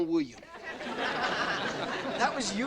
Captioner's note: audience laughing